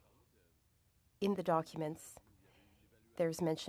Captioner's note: speaking French